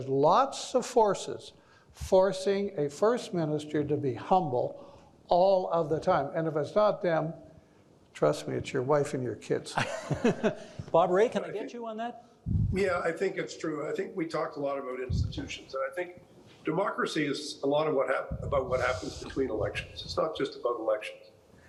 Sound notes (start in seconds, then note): 9.7 chuckling